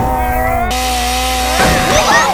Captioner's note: chainsaw